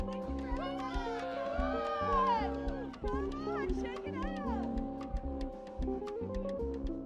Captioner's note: people cheering